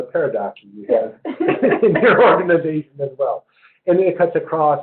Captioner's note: laugh